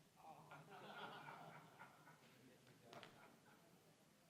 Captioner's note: scattered laughing